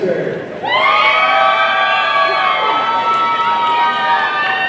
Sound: audience cheering

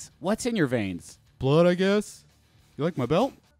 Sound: low voice

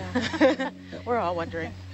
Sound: scientists laughing

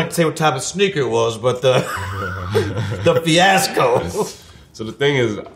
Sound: laughs

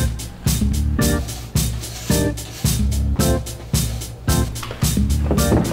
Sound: upbeat lively music; broom scraping floor; picture clattering on wall; upbeat lively music

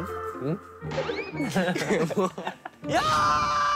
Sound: hehehehe

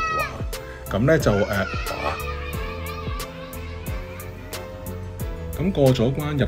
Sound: continues screaming; kid screaming

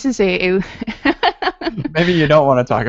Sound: chuckles

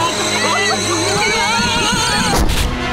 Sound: groaning; screaming

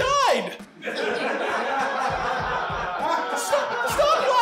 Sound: audience laughing

